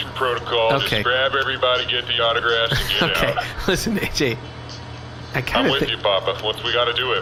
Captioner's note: laughing